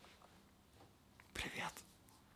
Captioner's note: whispers